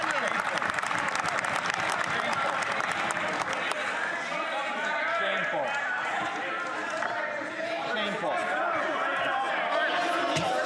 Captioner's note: some Applause